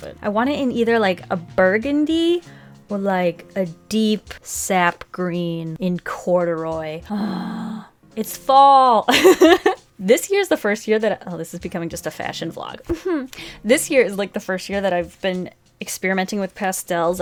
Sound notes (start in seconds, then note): 7.1 sighs deeply; 9.2 laughs; 12.9 giggles